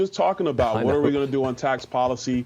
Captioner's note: laughter